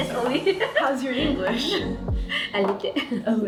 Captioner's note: laughs